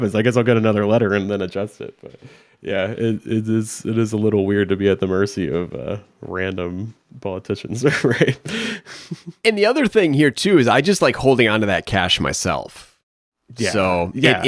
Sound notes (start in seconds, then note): 7.8 chuckles